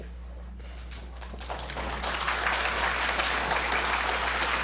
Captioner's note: applause